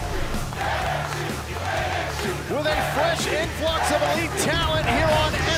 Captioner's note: fans chanting